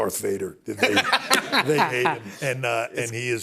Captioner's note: laughs